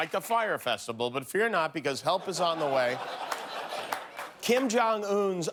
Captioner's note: cheers and applause